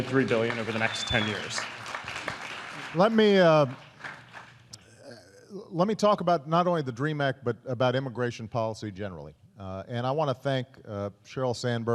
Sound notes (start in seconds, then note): 2.9 applause